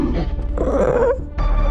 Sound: Suko growls

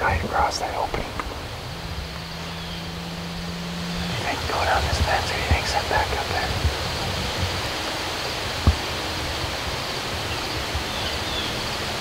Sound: wind

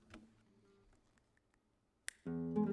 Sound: fingers snapping

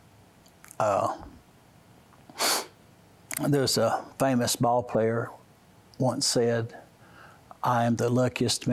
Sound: sniffs

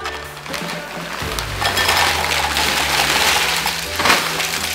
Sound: chips rattling

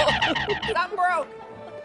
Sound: laughter

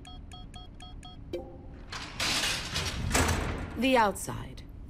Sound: keypad beeps, chimes; cell door creaks open

